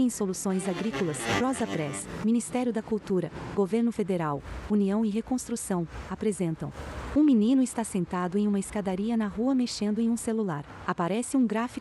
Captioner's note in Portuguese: Ruídos urbanos